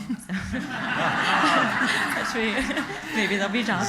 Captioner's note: laughter